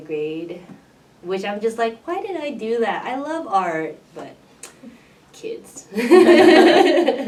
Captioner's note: laughs